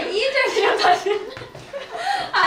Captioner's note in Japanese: ハハハ